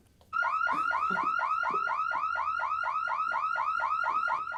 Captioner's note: alarm blaring